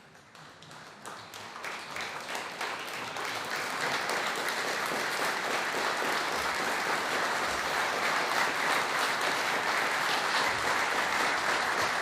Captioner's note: applause